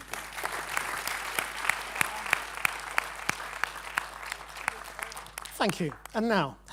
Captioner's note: applause